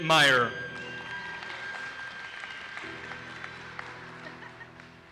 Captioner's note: audience applauses